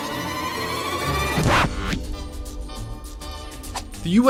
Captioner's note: suspenseful crescendo; cheery music; record scratch